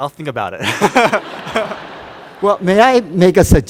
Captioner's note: laughter